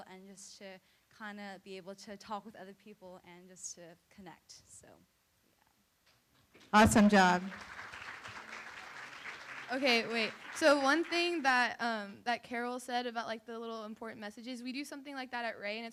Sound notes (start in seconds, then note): 6.6 room applauds